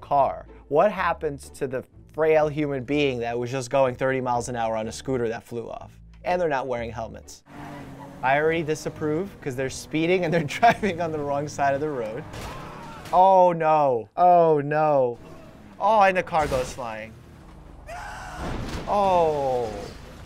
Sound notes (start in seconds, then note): 17.8 screaming